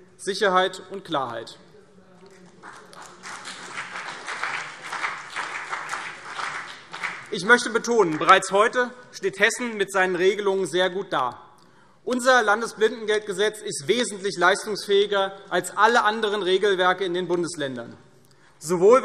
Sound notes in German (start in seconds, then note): 2.3 Beifall CDU und vereinzelt BÜNDNIS 90/DIE GRÜNEN